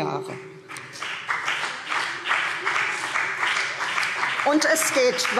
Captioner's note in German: Beifall CDU und BÜNDNIS 90/DIE GRÜNEN